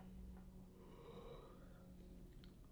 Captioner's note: yawn